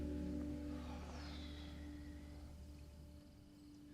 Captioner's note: sighs